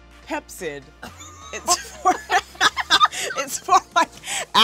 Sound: both girls laugh

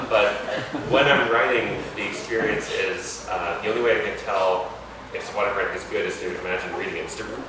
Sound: laughter

